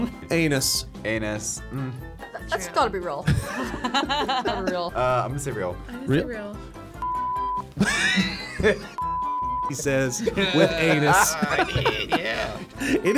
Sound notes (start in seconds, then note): 7.0 beep; 9.0 beep; 10.1 laughs